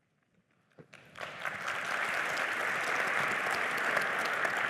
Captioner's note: applause